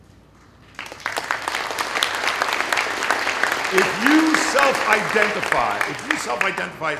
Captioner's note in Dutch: Applaus